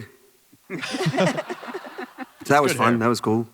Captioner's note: panelists laugh